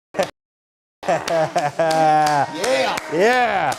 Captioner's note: cheering and Applause